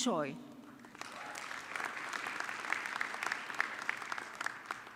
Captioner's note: audience clapping